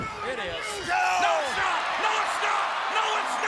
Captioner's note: audience cheers